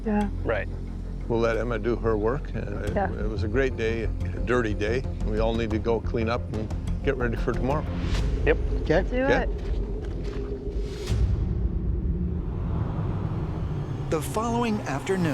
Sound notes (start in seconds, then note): 3.0 stammers